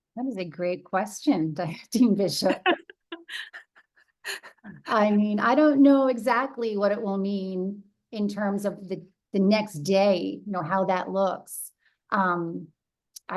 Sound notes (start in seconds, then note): 2.5 laugh